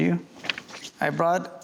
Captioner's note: paper rustling